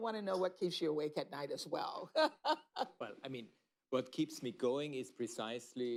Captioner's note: laughs